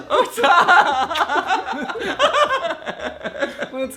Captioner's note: both men laughing